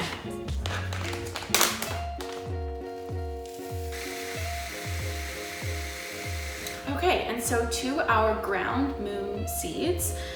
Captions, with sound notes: [machine whirring] Okay and so to our ground Moon Seeds